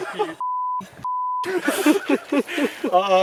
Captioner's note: all laughing